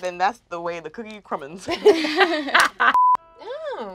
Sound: laughter

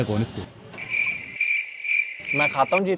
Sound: cricket

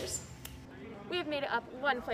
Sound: fingers snapping

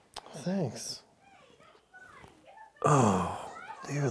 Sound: sounds of arguing

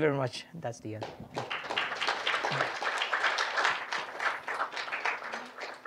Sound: applause

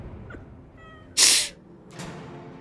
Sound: cries

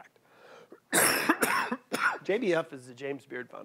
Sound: coughing

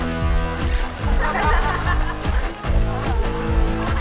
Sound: laughing

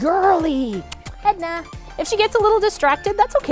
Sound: kissing sounds

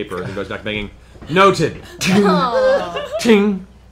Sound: clanging

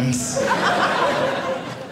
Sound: audience laughing

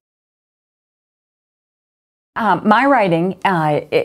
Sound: pause

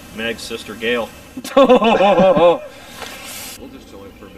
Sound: laughter

